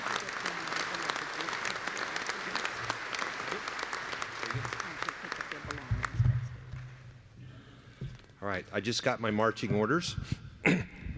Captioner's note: applause